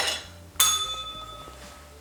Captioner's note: bell rings